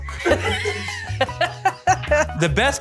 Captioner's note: laughing